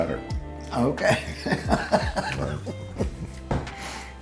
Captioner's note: laughs